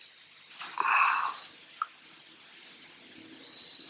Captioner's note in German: seufzen